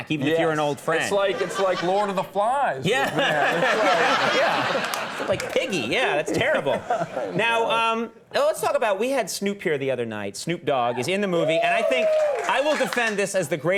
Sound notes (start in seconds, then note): 2.9 audience laughing; 11.0 audience cheering